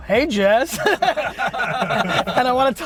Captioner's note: group laughs